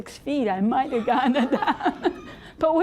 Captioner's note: audience laughing